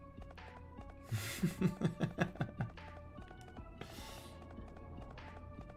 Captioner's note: giggling